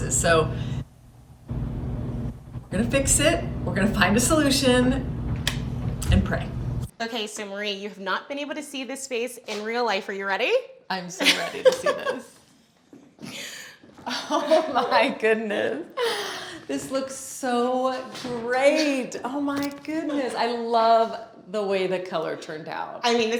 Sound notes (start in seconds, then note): 14.0 laughing